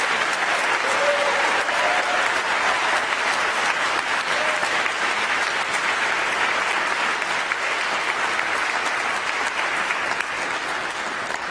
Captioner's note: applause